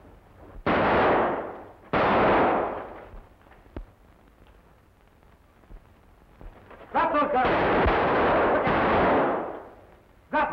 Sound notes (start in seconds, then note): 6.9 guns firing